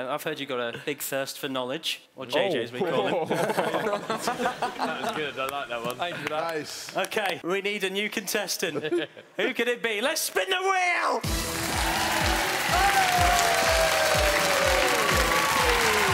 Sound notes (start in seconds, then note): 2.9 laughing drowns out speaking; 11.3 cheering; 13.1 dramatic music